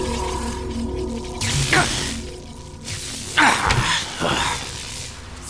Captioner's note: zaps